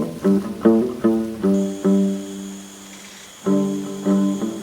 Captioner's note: crickets chirping